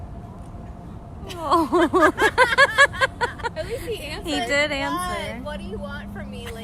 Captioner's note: laughter